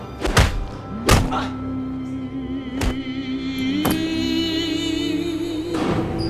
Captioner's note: tray clattering; punches thud; Edgar grunts